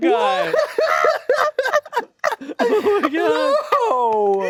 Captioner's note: hosts laughing